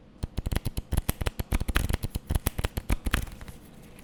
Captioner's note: cards shuffling